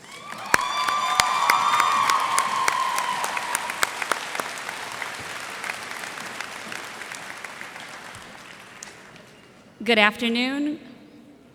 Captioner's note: cheers and applause